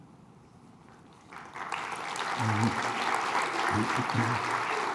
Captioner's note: applause